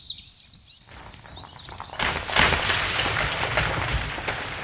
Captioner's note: rocks clattering